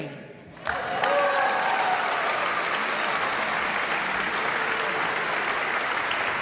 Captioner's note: all clapping; audience cheering